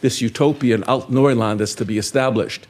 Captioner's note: speaking in foreign language